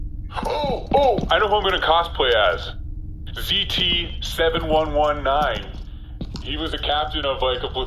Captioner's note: excited